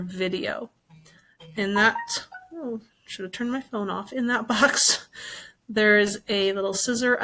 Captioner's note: phone chimes in background